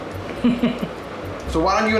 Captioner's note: laughs